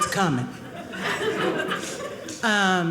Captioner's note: audience laughing